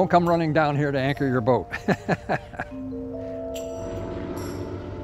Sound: laughs; motors

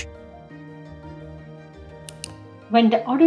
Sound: mouse click

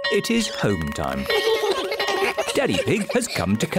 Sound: all giggle

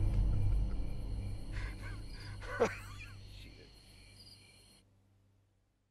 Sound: laughs

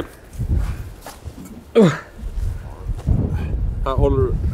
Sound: groans

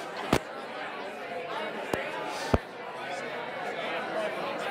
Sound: people chatting

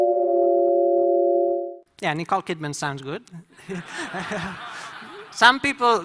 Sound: laughter

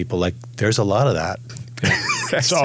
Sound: laughs

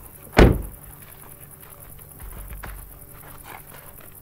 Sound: door thudding

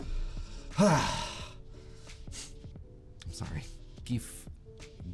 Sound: sigh

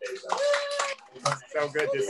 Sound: cheering

